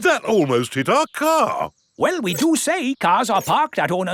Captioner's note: none